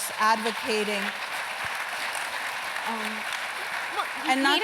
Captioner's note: applause